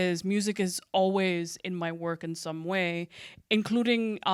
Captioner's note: none